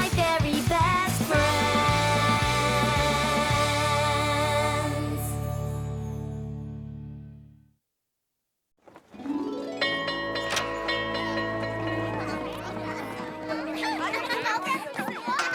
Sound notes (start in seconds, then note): 11.2 bell ringing